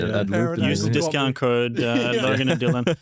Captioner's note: laughs